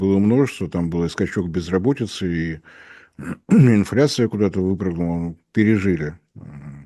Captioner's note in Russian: откашливается